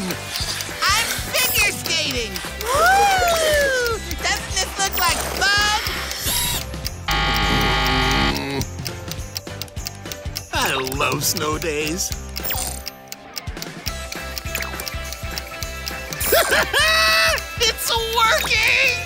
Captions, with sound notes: I'm figure skating! Woo! Doesn't this look like fun? [buzzer ringing] I love snow days. Ha ha ha, it's working!